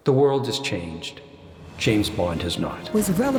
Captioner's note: echoing